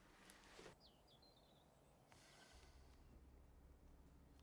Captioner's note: birds chirping